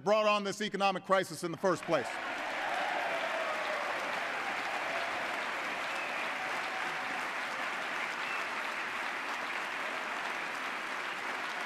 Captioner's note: applause